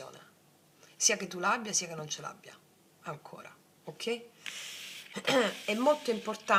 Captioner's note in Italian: schiarire la voce